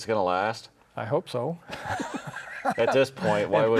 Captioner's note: laughs